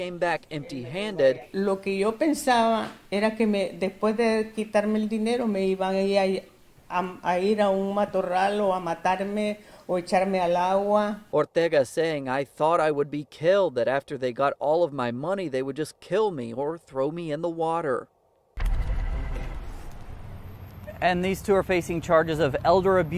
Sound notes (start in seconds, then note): 10.5 speaking spanish